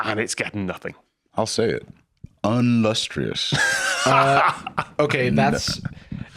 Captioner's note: Tom laughs